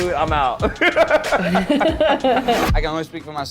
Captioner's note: laughing